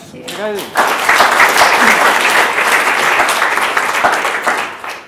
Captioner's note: applause